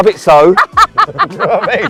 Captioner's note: laughter